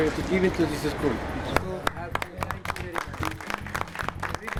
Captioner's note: applause